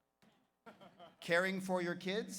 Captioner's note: audience laughs